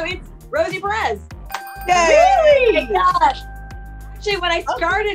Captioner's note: bell dings; women cheer